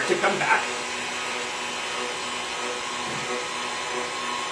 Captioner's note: machine roaring